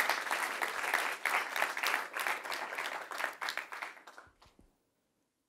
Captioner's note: applause